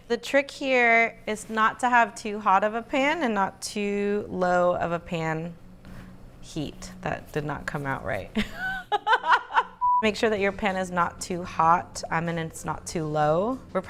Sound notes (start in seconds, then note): 8.3 laughs